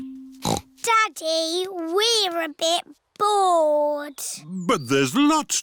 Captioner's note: snorts